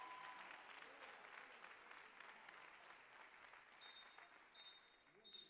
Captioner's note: cheers and applause